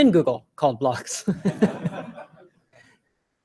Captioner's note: laughter